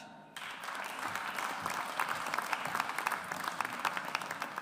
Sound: audience applauds

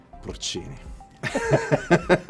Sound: both laughing

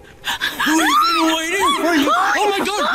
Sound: Destiny yells

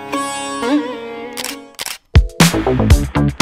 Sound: click

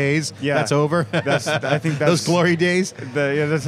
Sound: laughs

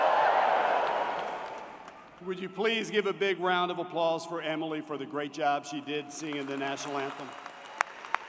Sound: cheering; cheering

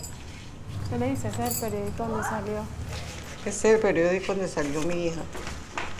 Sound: speaking in foreign language

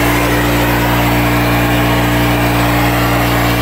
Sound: spraying

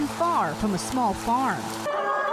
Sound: nat mowing lawn

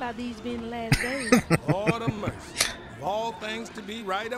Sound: laughing

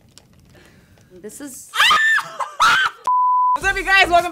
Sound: shrieking

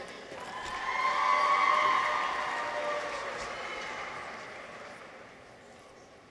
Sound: people cheer; audience applauds

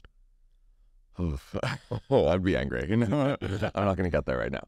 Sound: laughs

